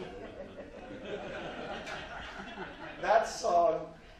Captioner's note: audience laughs